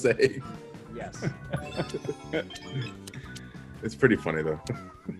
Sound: laugh

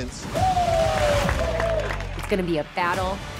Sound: competitors cheering

